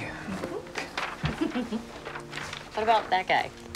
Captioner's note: Cassie giggles